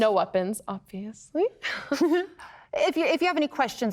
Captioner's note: both chuckle